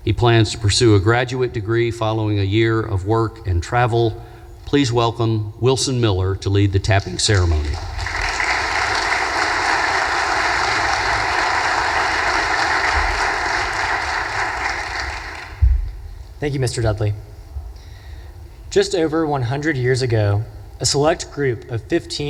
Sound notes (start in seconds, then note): 7.3 audience applause